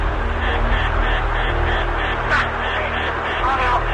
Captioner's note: plane warning beeping